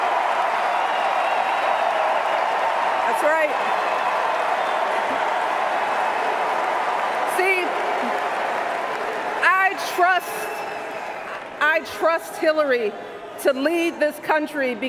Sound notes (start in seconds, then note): 0.0 cheers, applause